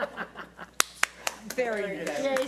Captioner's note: applauding